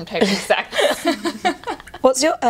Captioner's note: laughter